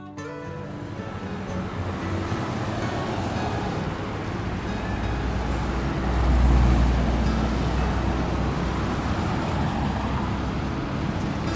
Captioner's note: traffic sounds ambiance